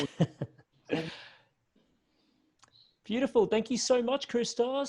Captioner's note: laughs